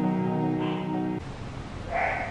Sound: Puding barked

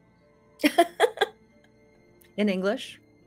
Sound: laughs

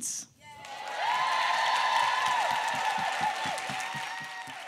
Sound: applause

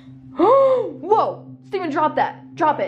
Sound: gasping

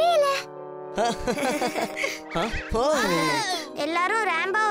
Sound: laughing

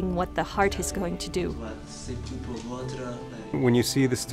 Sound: speaking foreign language

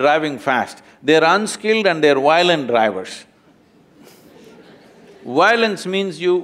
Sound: few laugh

